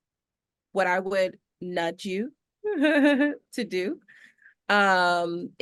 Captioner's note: chuckles